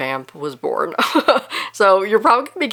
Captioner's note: laughs